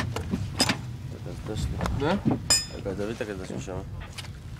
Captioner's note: Hebrew spoken audio